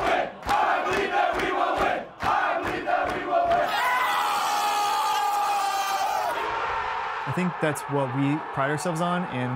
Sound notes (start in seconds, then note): 3.4 fans screaming and cheering